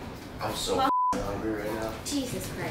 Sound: beep

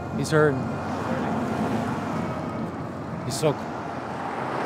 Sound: cars passing

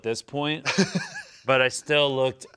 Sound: laughs

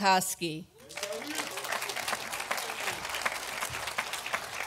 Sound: audience applauding

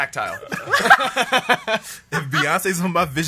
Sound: laughs

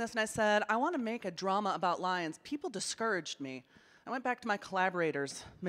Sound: none

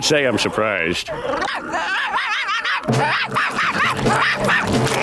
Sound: barking

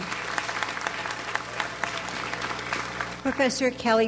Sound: audience applauds

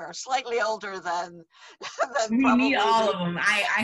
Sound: laughs

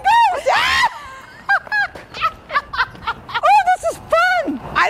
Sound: laughs

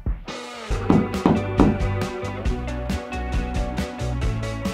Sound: hammer tapping

